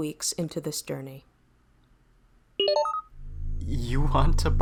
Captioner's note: SFX: engine room hum/hiss